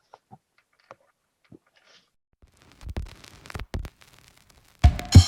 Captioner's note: silence